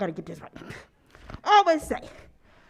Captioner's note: mutters